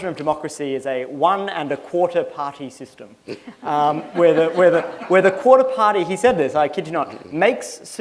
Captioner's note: laughter